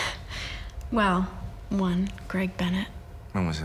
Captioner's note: laughs